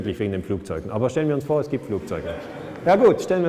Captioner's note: laughter